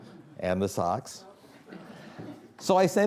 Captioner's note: audience chuckling